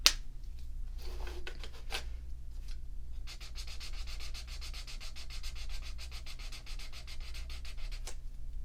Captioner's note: swatching souds